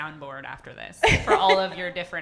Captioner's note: laughing